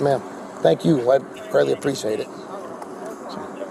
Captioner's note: radio chatter